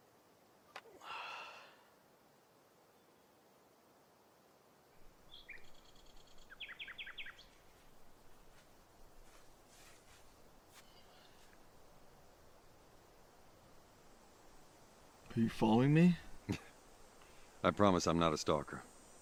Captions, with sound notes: (Charlie sighs) (birds chirping) - Are you following me? - I promise I'm not a stalker.